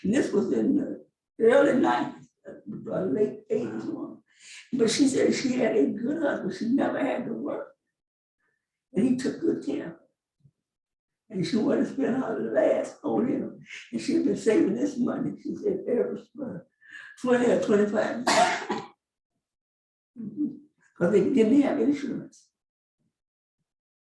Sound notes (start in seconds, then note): 18.2 coughs